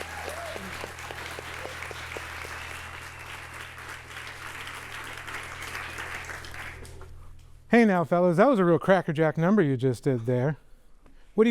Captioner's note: applause